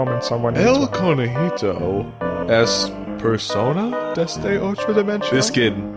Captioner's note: bad Spanish